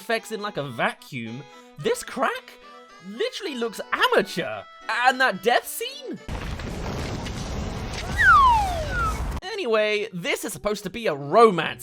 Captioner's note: slide whistle